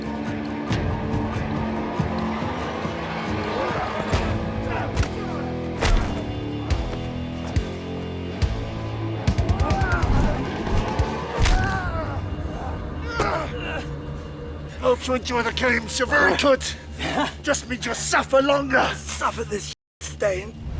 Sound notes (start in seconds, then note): 4.6 both moaning; 7.5 dramatic music